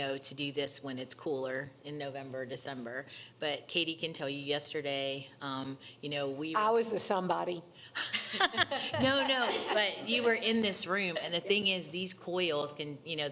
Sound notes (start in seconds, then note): 8.0 laughing